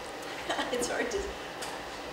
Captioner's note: laughs